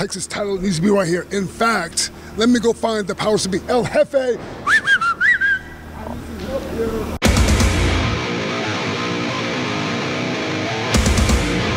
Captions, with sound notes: Texas title needs to be right here. In fact, let me go find the powers to be. El Hefe. (whistles) (aggressive rock music)